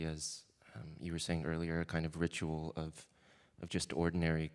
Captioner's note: none